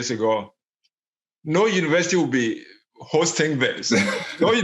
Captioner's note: laughs